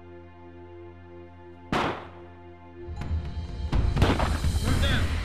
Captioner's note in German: Schüsse